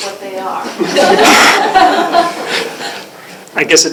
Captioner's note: laughter